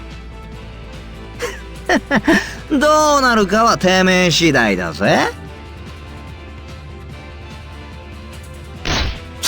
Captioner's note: chuckle